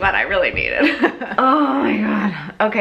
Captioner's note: laughs